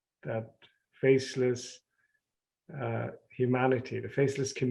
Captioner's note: none